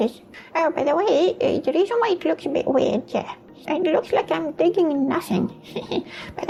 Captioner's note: chuckle